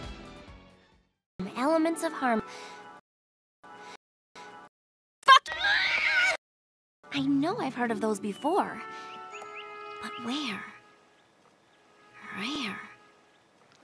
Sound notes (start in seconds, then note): 2.5 inhales